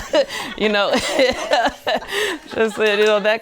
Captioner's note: women laughing humorously